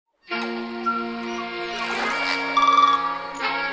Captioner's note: tranquil birdsong